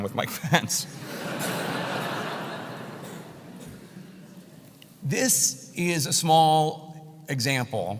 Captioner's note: laugh